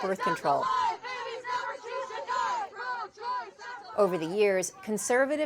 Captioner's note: chanting